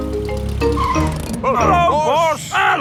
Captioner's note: brakes squeal